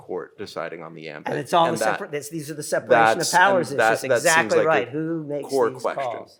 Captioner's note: chattering